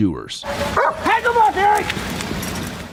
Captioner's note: dog barking